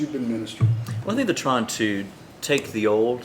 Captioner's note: bottle bangs on table